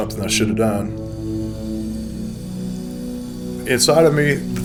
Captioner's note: water running